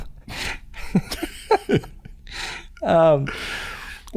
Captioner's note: laughter